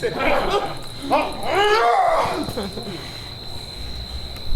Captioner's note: Oberon growls